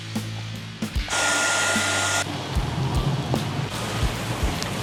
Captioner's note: hairdryer whirring